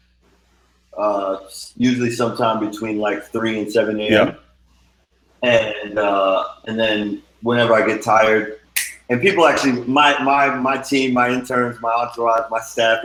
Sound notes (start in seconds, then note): 8.8 snapping